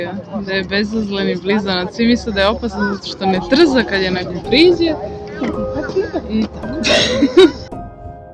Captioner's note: laughter